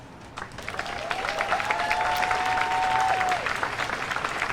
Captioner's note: audience cheers loudly